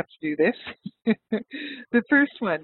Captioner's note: laughs